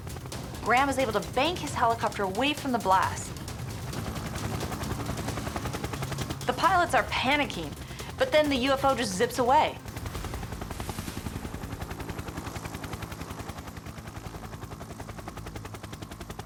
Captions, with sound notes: Graham is able to bank his helicopter away from the blast. The pilots are panicking, but then the UFO just zips away. [helicopter thrumming]